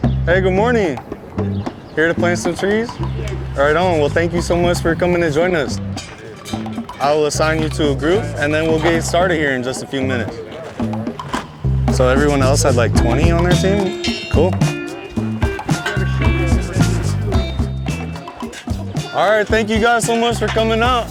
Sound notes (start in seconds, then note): 12.1 background chatter